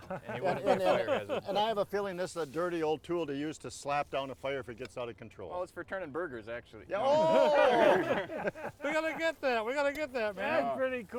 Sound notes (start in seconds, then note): 7.0 all laughing